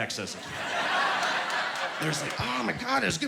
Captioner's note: laughing